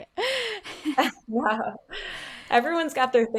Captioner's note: laughing